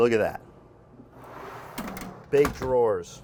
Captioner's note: drawer scrapes